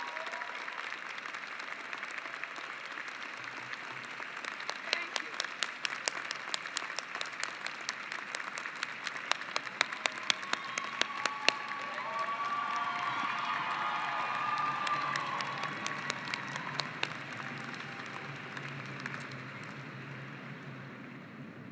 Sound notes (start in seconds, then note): 0.0 cheering and applause; 6.5 cheering and applause